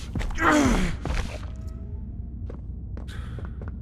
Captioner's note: grunting